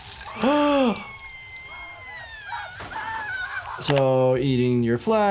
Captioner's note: acid splashing; skin sizzling; woman screaming; gasps